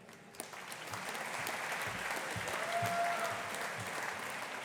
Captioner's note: audience applauding